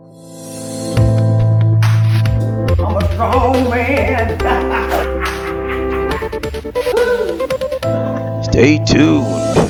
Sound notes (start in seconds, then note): 0.2 upbeat music; 3.6 laughs